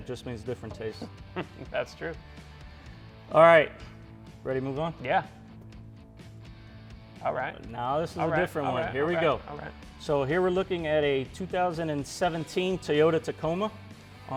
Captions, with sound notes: Just means different tastes. - (chuckling) That's true. - All right, ready to move on? - Yeah. All right, all right. - Now, this is a different one. Here we go. So, here we're looking at a 2017 Toyota Tacoma